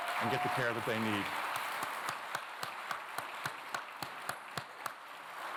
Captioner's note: applause